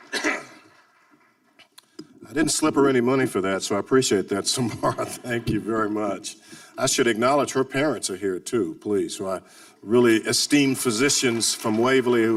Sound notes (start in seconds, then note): 0.0 coughing; 5.3 laughing